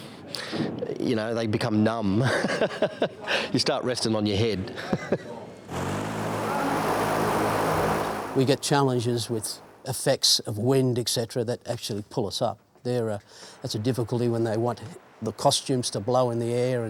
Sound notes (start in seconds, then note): 4.6 laughs